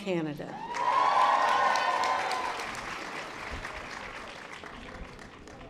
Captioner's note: audience applause